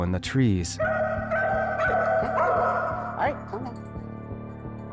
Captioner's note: dog barking